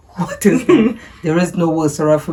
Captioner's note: laughing